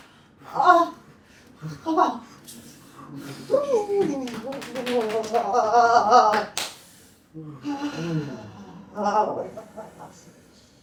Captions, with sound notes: [laughter] All the way to the last series.